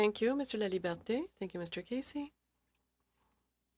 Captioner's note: speaking French